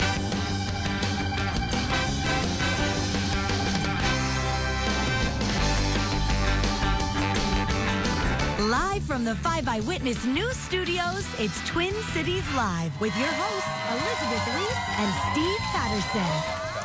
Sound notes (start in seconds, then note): 0.1 energetic music; 8.8 voiceover